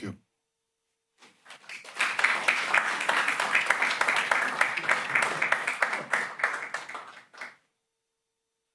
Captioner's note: applause